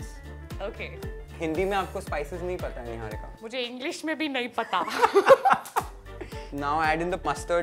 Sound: both laugh

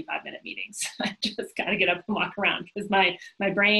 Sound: laughs

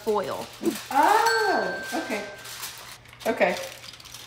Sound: bell dings

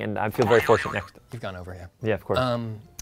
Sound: boing sound

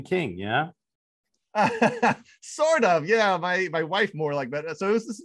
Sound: laughs

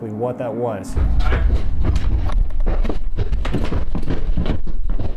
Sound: clammering

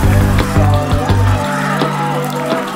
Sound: cheering grows; sand scatters; rope strains

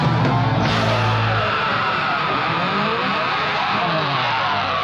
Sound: shrieking yell

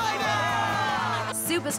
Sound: cheering

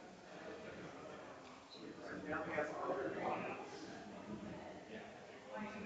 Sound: people chattering distantly continues

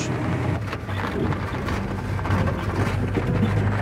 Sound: tires rumbling

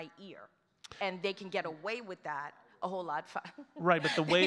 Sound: laughs

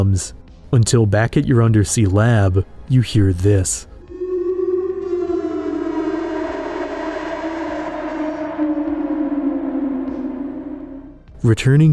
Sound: eerie call

